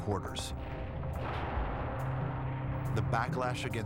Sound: gunfire

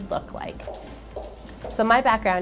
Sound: sound of heels walking

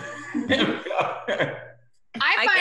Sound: laughs

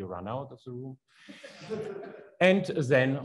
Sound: audience laughs

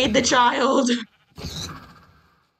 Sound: laughs; pig squeals and dies

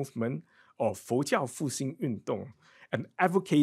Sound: speaks in foreign language

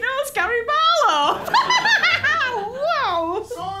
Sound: laughter

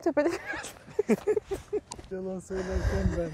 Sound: laughings

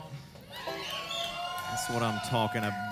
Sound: crowd cheers

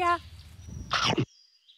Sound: Munch

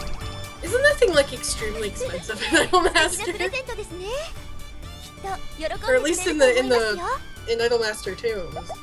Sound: giggle

